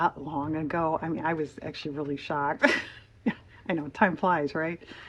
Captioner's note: laughs